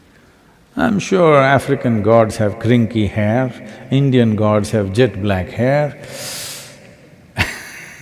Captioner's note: laughs